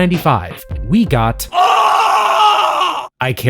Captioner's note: screaming